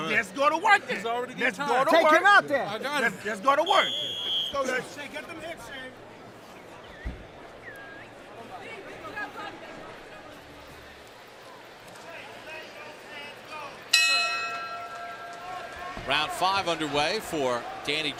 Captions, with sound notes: - Well, let's go to work then. - He's already getting tired. - Take him out, then. - I got it. - Let's go to work. [whistle blows] - Go, Danny. - Get them hits, Shay. - Shay, let those hands go! [bell dings] - Round 5 underway